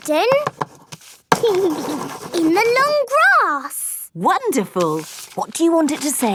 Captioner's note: giggling